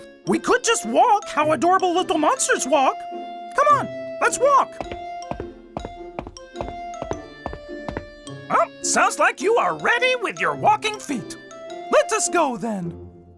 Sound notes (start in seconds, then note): 5.7 footsteps